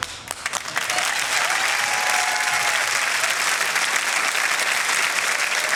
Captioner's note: cheering, applause